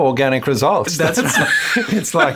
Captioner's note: laughs